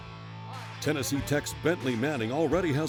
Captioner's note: voiceover